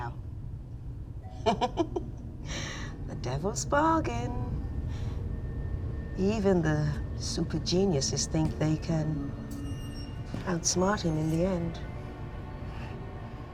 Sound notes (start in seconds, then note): 1.4 laughs